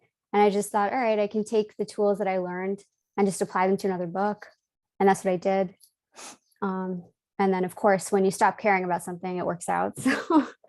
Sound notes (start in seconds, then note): 10.0 chuckles